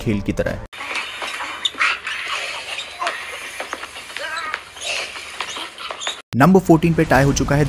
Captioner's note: choking